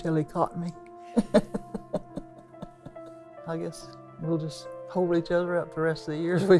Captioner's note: laughs